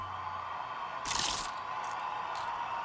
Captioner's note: crowd cheering on TV